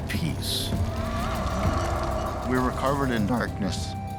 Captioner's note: creature howling